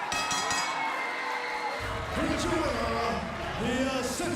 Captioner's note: bell ringing